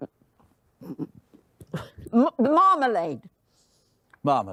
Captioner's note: gargling